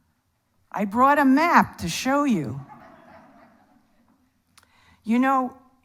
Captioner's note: audience laughs